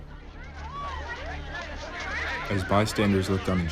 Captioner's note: people chattering